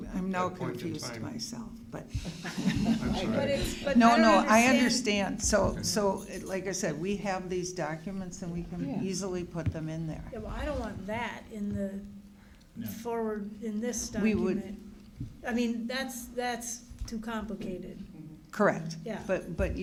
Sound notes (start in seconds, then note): 4.8 laughing